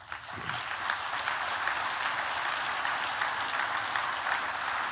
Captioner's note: applause